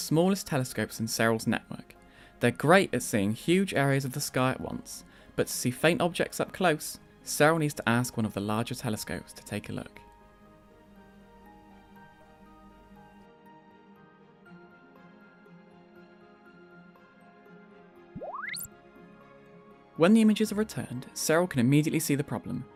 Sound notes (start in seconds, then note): 18.2 notification bleeps